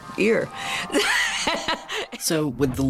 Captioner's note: laughs